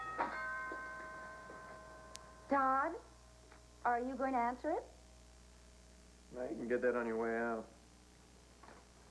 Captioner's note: doorbell rings